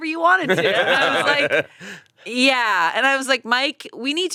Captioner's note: both laughing